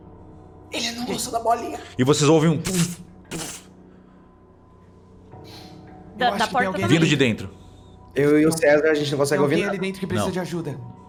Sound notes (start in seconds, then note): 3.2 puff puff